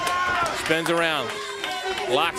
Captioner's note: crowd cheering